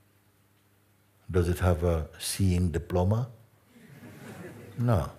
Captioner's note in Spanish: risas